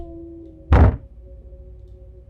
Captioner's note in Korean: 쿵!